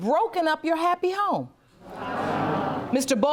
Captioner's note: audience murmuring